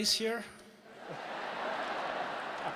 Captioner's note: laughter/Applause